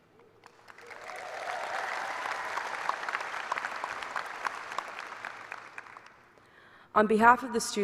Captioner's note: cheers and applause